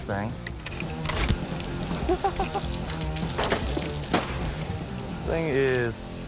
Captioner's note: stabs, water drips; JoJ giggles